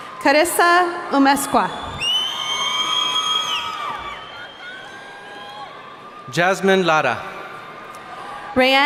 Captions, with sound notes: - Karissa Umesqua. (whistling) - Jasmine Lara.